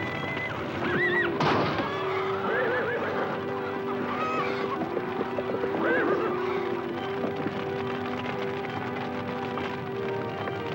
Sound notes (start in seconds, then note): 1.6 horse hooves thudding; 5.2 fire crackling; 5.2 horses whinnying